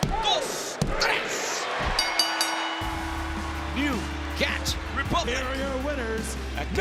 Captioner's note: applause